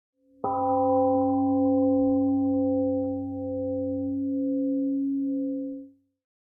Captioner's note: temple gong rings and fades